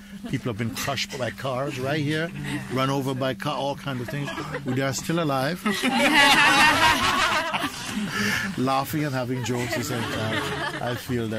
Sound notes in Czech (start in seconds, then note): 5.6 smích